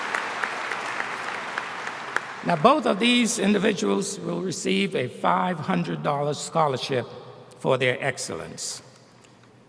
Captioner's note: applause